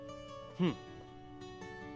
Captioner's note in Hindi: none